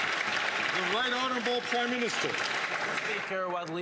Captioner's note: some Applause